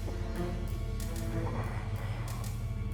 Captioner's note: moans softly